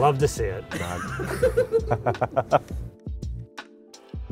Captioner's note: crew laughing